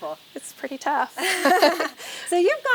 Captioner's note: women chuckling